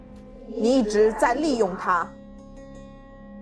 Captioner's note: Mandarin language